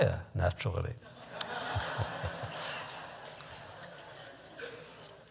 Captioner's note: laughter